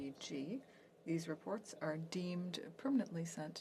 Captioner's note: speaking French